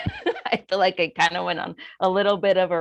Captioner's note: chuckles